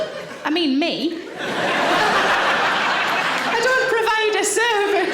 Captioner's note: audience laughing